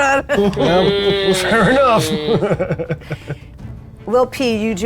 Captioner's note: chuckles